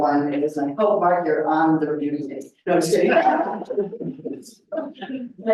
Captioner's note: laughs